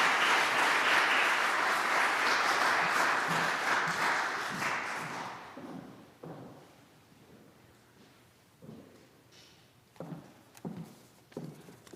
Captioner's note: applause